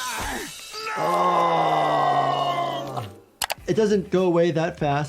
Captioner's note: groaning